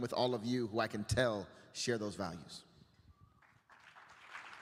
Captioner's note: applause